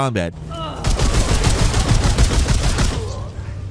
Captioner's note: gun shots